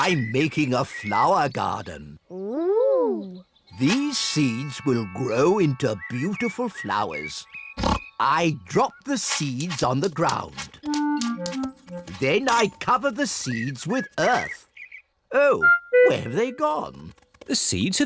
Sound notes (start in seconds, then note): 7.7 oinks